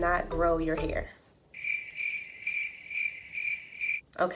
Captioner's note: crickets chirpping